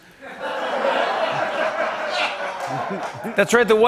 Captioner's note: laughter